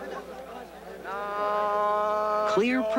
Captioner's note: business man vocalizing